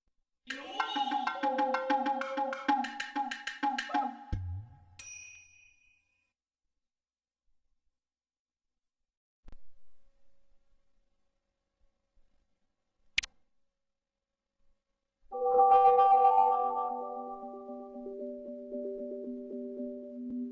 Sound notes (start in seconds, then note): 0.4 jungle music plays; 13.1 128-bit click; 15.3 futuristic music plays